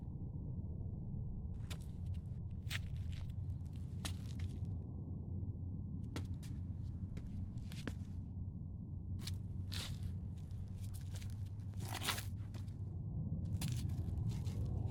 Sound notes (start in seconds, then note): 1.1 footsteps crunching; 10.4 footsteps crunching continues